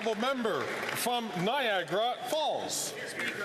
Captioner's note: some Applause